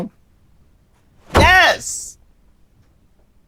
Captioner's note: bangs on table